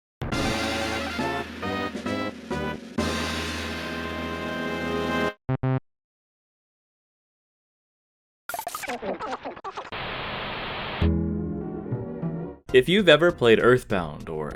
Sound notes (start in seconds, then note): 5.7 failure sound; 9.9 Giygas static